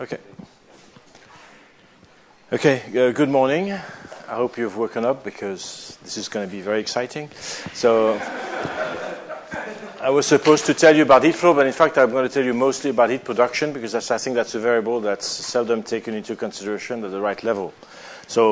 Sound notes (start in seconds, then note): 8.0 laughter